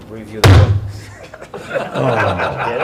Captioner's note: hand thuds; reporters laughing